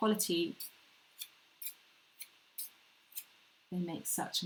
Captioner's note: scissors slicing